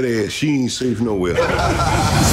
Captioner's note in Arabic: هاهاهاها